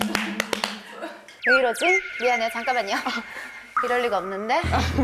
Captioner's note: awkward sound effect